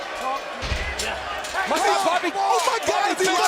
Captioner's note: crowd chatter